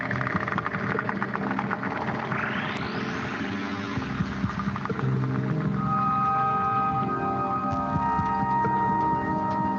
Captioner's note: beeping